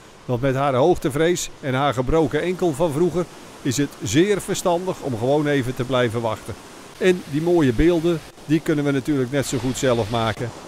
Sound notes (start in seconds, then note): 0.3 voiceover